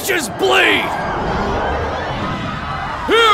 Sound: screaming

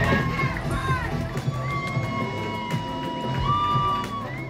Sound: crowd cheering

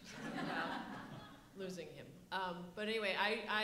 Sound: audience laughs

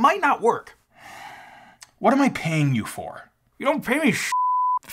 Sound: sighs; beeps

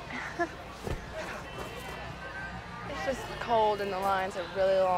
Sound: chuckles; fist thuds

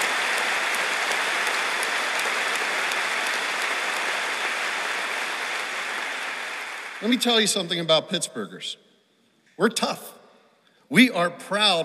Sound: applause

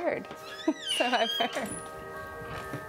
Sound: door creaking

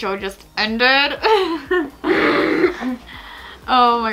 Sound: laughs; grunts

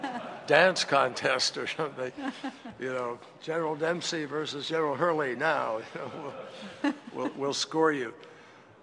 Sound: laughter

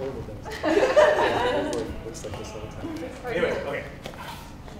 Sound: laughter

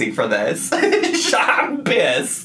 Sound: laughing

